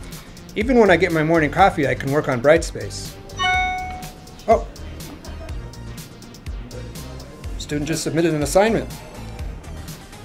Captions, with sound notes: Even when I get my morning coffee I can work on Brightspace. (ding) Oh! A student just submitted an assignment.